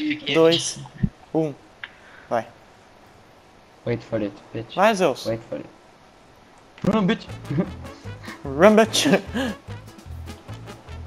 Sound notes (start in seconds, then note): 4.4 hick accent